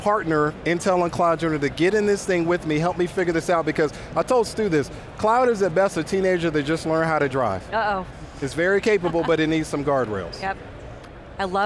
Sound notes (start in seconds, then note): 8.8 laugh